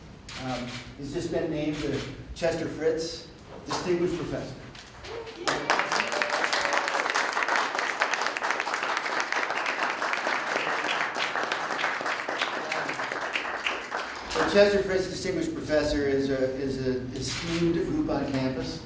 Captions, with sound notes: He's just been named a Chester Fritz Distinguished Professor. (applause) The Chester Fritz Distinguished Professor is an esteemed group on campus.